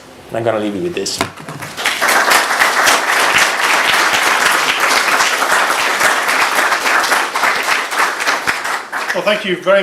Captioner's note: applause